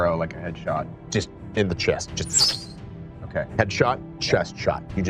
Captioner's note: arrow screaming